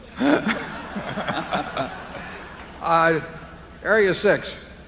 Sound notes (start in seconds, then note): 2.1 laughter